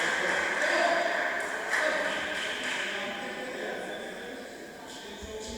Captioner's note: applause